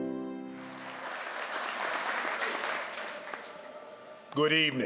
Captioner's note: piano music; crowd applauds